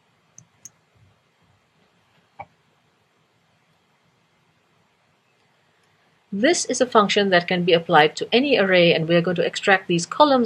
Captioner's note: pause